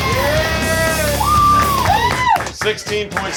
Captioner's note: screaming